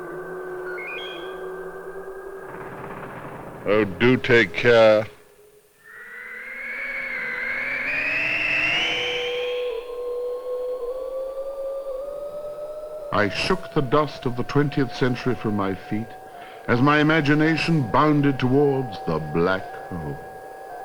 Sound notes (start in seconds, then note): 0.5 electronic beep